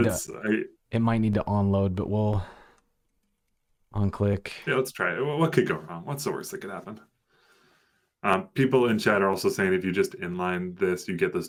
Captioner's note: audio cutting out